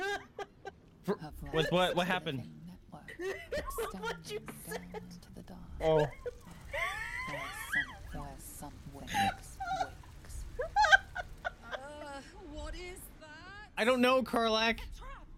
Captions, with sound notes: With what- what happened? Oh... I don't know, Karlach! *laughing* *laughing* What you said! *laughing, wheezing, barely holding it together*